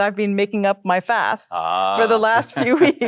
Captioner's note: chuckles